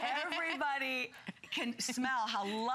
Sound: laughter

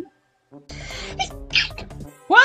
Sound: sneezes

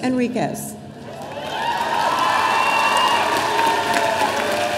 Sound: audience cheering

